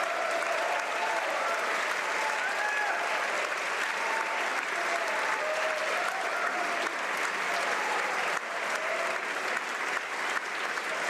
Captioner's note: applause